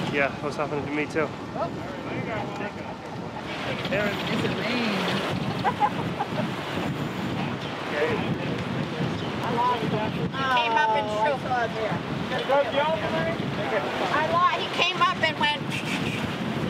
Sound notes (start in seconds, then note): 5.4 ha ha ha!